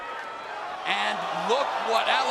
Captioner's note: fans cheering